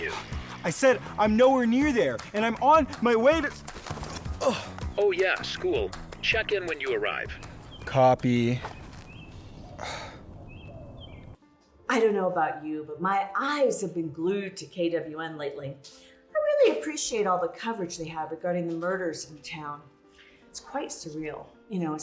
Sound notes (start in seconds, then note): 0.4 sighs; 4.4 Barney groans; 9.3 sighs; 10.6 birds chirping